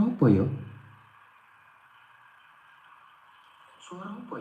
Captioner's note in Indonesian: none